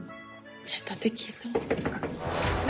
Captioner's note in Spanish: Toques en la puerta